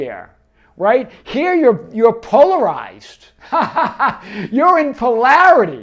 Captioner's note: laughs